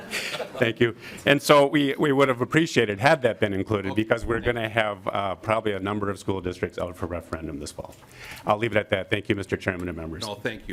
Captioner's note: lauging